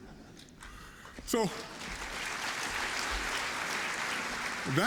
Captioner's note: applause